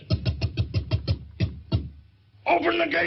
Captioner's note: fists pounding